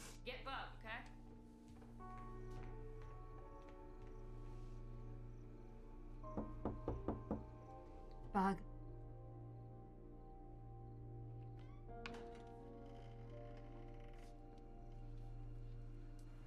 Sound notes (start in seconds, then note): 6.3 KNOCKlNG ON DOOR